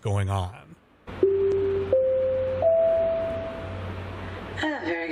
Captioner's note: chimes alert passengers to an imminent announcement